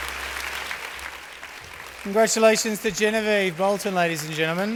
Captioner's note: applause